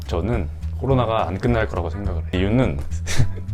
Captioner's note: ?laughing